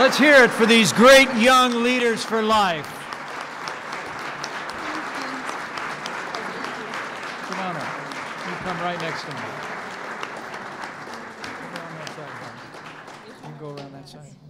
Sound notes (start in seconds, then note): 3.1 applause